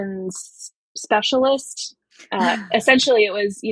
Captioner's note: <Laugh>